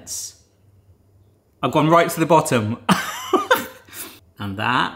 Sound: chuckling

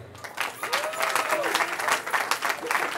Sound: cheering

